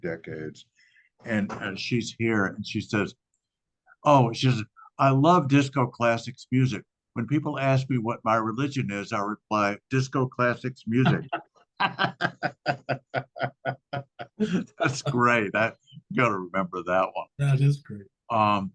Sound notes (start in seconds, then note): 11.8 laughter